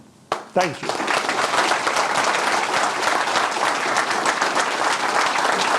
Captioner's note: audience applauding